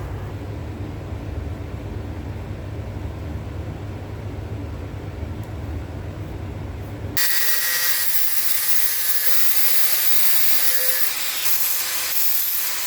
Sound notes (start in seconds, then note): 7.2 angle grinder cutting metal, sparks flying